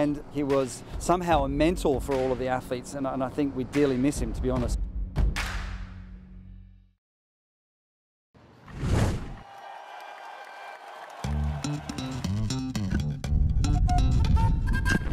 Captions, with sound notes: and he was somehow a mentor for all of the athletes. We dearly miss him, to be honest. [CROWD CHEERING] [LIGHT MUSIC PLAYING]